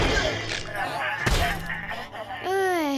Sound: groans

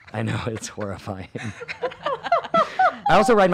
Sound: everyone laughs

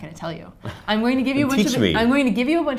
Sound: laugh

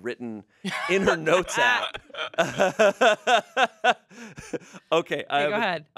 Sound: everyone laughs

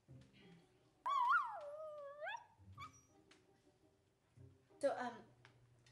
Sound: dog whimpering

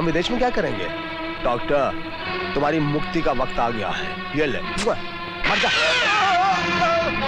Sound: gunshot

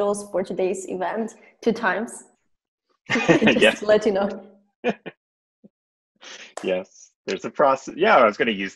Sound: laughter

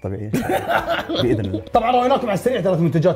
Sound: laughs

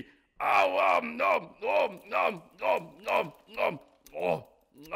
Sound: Cookie Monster chewing sound

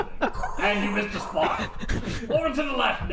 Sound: Darth Vader breathing

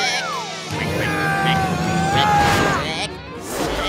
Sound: grunting

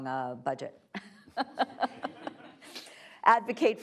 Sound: laughing

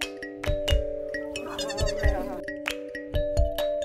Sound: baby goat bleeting

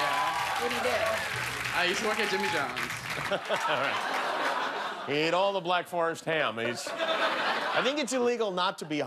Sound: cheers and applause

